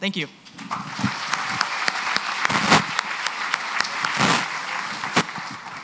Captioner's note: applause